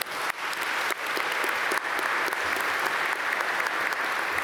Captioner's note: applause